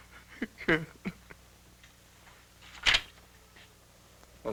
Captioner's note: crying